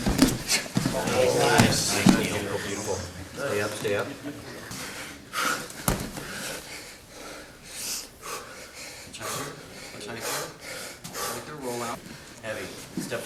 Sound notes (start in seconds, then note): 0.0 men laughing; 1.5 soft thudding; 6.2 heavy breathing